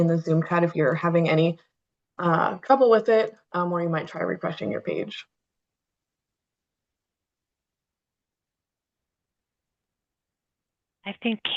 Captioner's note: pause